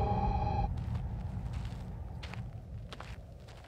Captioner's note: wind whistling